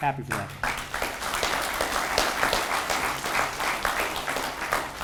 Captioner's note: audience applauds